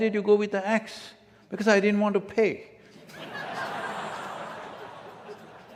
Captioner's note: laughter